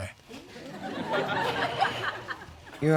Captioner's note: audience laughing